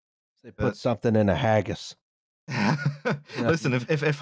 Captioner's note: laughs